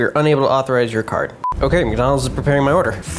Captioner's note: beep